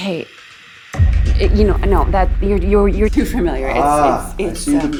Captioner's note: stammering